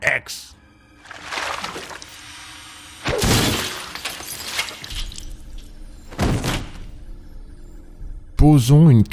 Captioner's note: sounds of a cryogenic murder